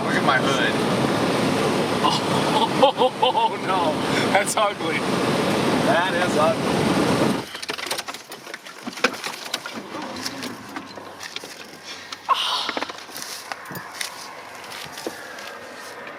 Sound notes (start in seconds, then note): 2.0 chuckles; 12.0 wincing